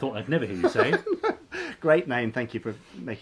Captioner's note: laughing